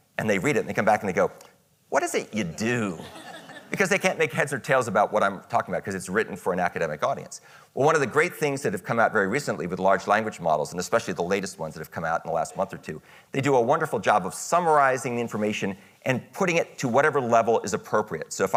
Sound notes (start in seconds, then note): 2.9 audience laughing